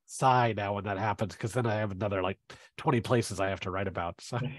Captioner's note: laughs